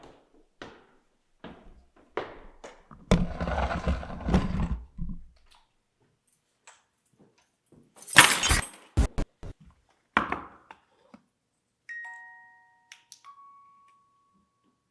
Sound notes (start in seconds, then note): 3.4 camera scraping; 8.0 keys thud; 9.0 static crackling; 11.9 gentle music